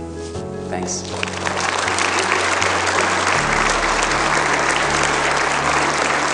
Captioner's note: crowd applauds